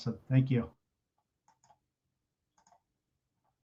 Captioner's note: silence